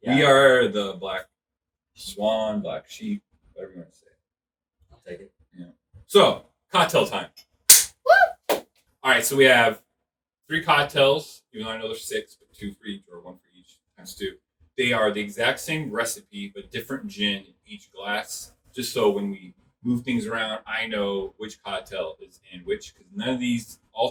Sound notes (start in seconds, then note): 7.7 clap